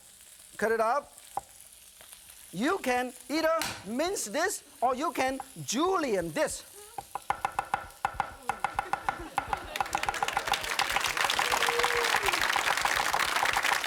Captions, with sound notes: Cut it up. You can either mince this or you can Julian this. (audience laughing) (audience clapping)